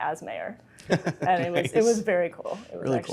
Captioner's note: laughs